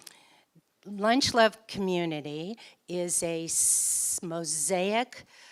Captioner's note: none